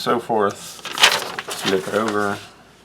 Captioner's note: paper rustling